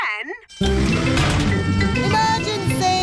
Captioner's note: siren blaring